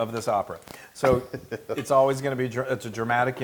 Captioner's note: laugh